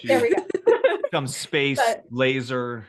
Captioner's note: laughing